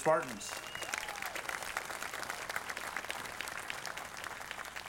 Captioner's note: audience applauding